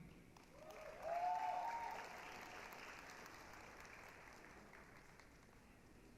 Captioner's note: applause, cheering